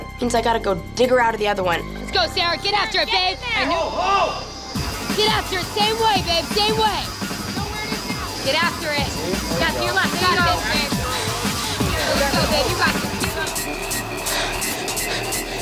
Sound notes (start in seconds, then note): 7.5 crowd cheering; 8.6 electronic music